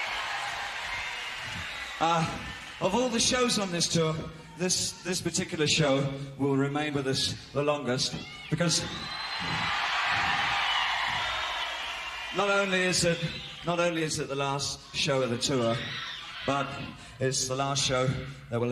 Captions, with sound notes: one of the greatest tours of our life really. [applause and cheering] Of all the shows on this tour, this particular show will remain with us the longest because [applause and cheering] not only is it the last show of the tour,